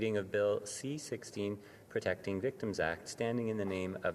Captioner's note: speaking French